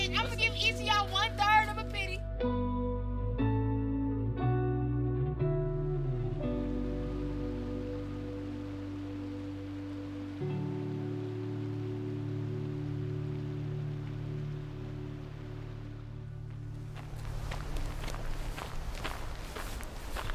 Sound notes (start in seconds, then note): 2.6 peaceful music; 7.1 water flowing